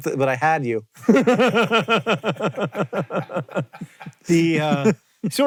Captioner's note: JOHN and CREW laugh